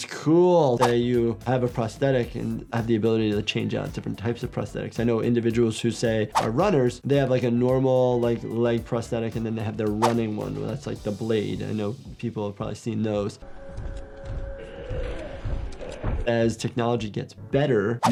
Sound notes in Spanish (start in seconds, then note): 13.3 música de suspenso; 14.1 criatura gimiendo y pisoteando